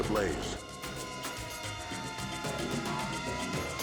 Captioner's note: sirens wailing